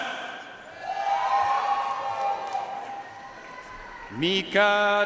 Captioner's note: audience cheering and applauding